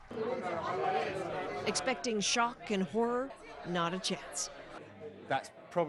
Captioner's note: indistinct chatter